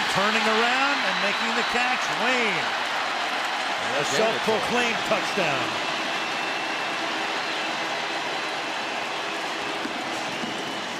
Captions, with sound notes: And turning around and making the catch, Wayne, and a self-proclaimed touchdown. [cheering]